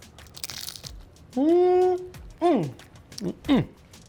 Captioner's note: chip crunching; hums